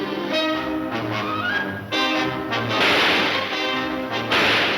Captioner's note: gunshots banging